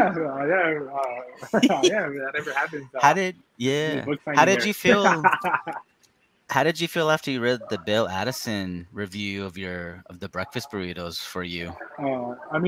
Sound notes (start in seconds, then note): 4.4 laughing